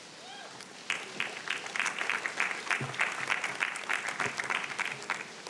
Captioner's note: audience applauding